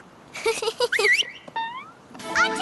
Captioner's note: giggle; beckoning whistle